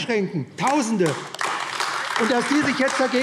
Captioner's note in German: Beifall AfD